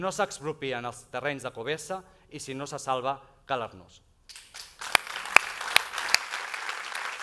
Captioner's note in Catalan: aplaudiments